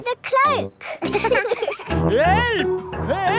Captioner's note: laughing